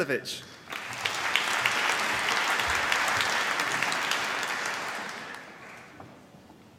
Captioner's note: applause